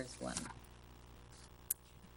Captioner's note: paper rustling